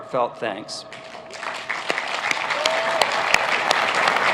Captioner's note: applauding